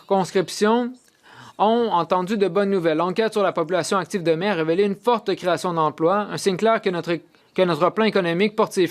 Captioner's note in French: voix de l'interprète